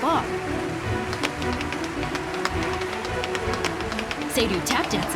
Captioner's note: Seiryu tap dancing